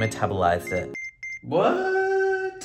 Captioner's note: scale beeps